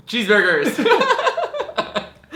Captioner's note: laughs